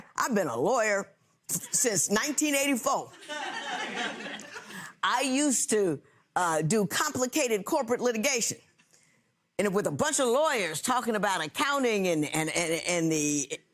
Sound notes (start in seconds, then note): 3.2 audience laughs